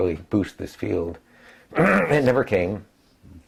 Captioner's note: cough